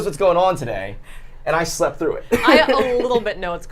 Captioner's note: laughs